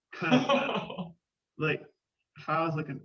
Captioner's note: laughing